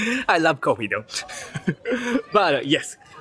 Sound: chuckle

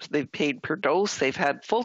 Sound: voix de l'interprète

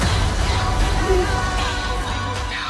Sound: gasps

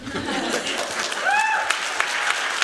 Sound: laughter; applause; cheering

